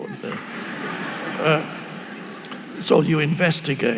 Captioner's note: audience laughing